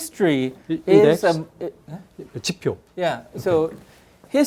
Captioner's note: speaking in Korean